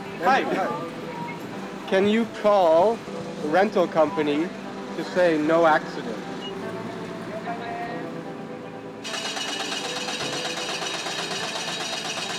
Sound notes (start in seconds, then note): 7.4 in Japanese; 9.0 engine sputtering